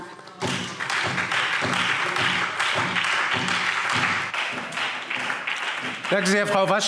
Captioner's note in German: Beifall SPD und Freie Demokraten